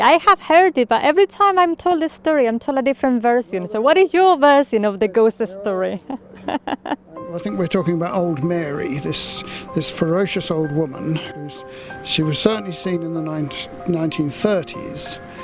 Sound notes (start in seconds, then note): 5.9 laughs